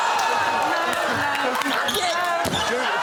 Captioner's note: cheering